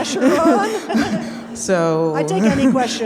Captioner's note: audience laughing